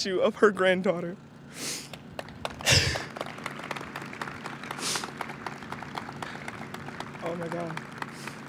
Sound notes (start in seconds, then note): 1.9 audience claps